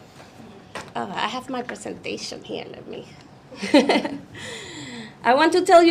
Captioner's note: chuckles